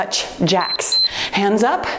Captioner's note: timer beeps